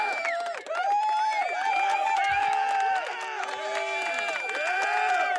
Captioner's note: audience cheering